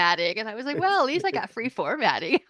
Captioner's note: chuckles